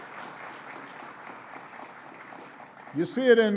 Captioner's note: applause